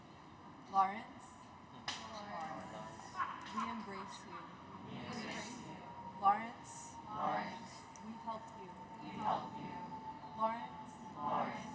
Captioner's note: cheers